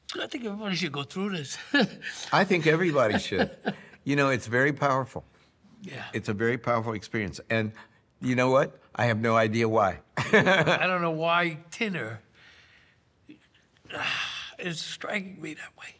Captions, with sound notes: - I think everybody should go through this. - I think everybody should. (Tony laughs) You know, it's very powerful. - Yeah. It's a very powerful experience. And you know what? I have no idea why. (laughs) - I don't know why tinner is striking me that way.